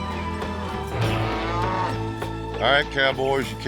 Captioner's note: cattle moo